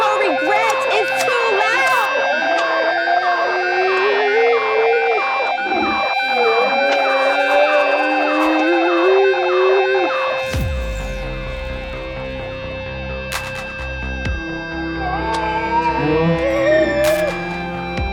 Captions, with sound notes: - Your regret is too loud! (echo ringing) (intense music)